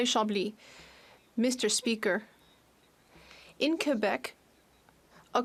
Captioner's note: speaking French